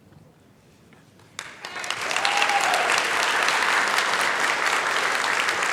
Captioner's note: applause